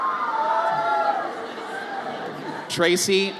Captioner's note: audience cheers